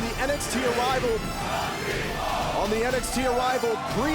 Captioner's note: crowd chanting